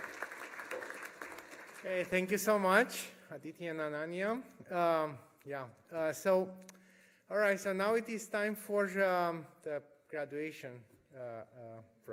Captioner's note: applause